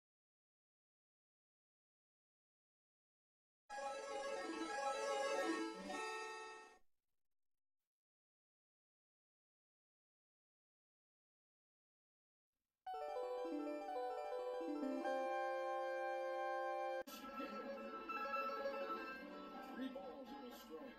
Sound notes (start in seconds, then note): 0.2 silence; 3.8 8-bit chime plays; 10.7 silence